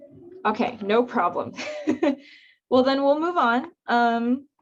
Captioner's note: chuckles